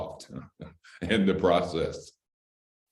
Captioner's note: laughter